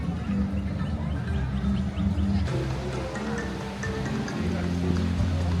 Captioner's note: crowd chattering indistinctly